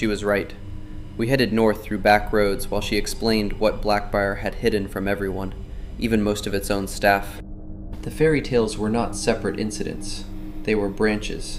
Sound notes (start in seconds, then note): 4.1 thoughtful